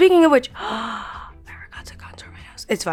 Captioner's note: gasping